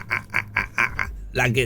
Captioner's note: laughs